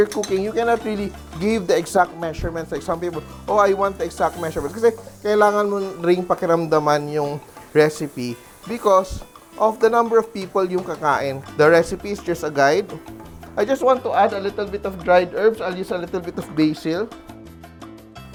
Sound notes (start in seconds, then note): 0.1 clang; 0.3 sizzle; 13.1 sizzle